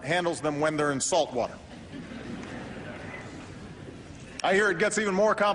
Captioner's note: laughter